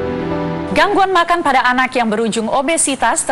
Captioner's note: non-english speech